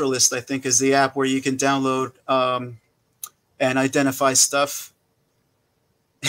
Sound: laughing

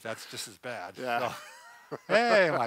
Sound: laughs

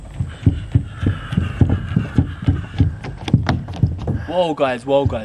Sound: sound of running

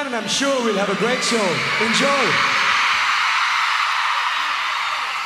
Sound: crowd cheers

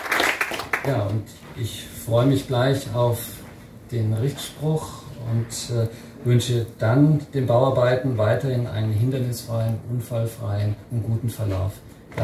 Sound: applause

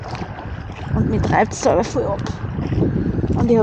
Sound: wind

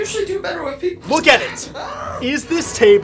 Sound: screaming

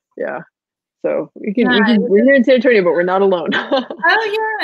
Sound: murmurs

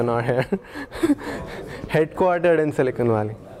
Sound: laugh

